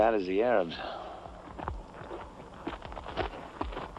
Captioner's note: footsteps